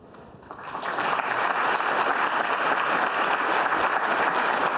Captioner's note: audience applause